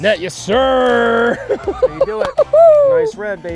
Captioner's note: laughter